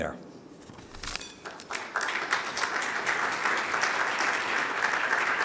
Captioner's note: audience applauding